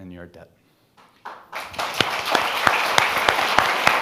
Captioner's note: all applauding